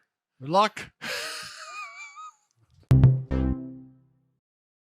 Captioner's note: laughing